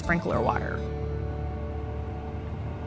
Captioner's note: rumbling of driving car